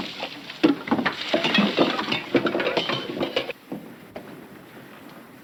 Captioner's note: ship creaking; cups clattering